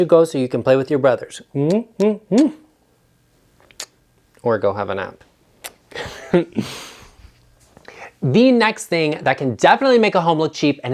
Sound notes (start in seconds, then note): 1.6 kisses; 5.9 laughs